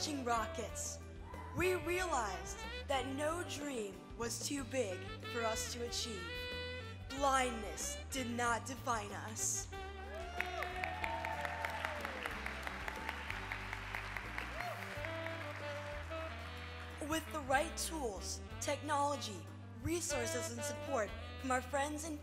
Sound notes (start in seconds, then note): 10.1 applause